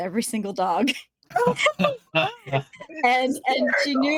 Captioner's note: everyone laughing